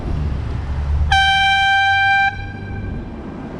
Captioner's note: airhorn